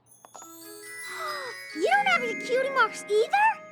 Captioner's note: gasps